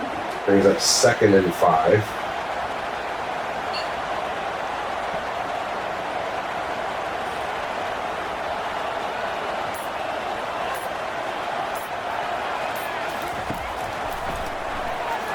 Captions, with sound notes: Threw up second and five. [Crowd Noises]